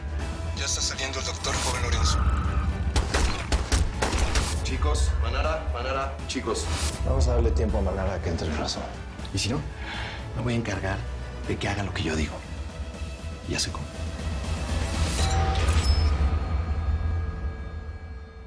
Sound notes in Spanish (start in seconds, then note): 2.9 Disparos